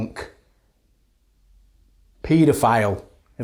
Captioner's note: silence